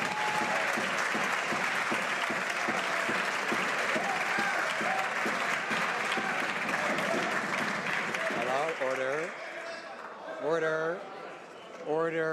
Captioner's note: some Applause